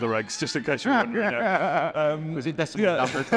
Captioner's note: interviewer laughs